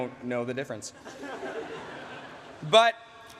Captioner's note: laughter